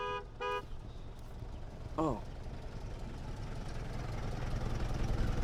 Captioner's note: engine rumbling